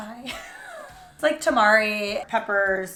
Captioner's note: laughs